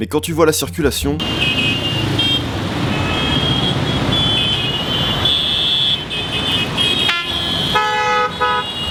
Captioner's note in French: klaxons